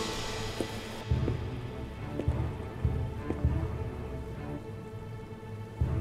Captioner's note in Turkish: Ayak sesi